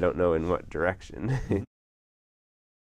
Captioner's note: laugh